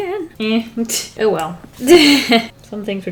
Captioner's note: laughs